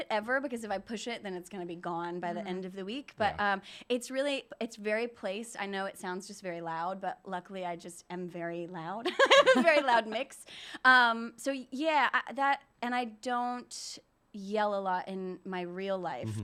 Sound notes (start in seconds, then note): 8.9 laughing